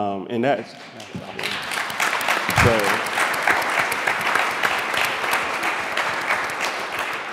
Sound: applause

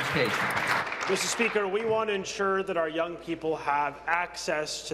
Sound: applause

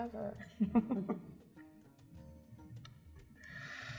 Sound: chuckles

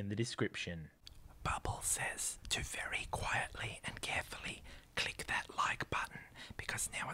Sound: whispers

